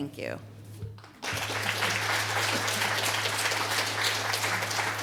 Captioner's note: applause